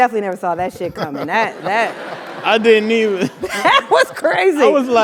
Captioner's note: laugh